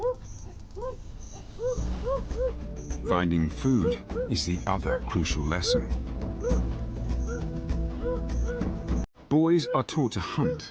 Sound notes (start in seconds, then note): 0.1 boys howling; 0.1 dramatic music; 5.9 boys howling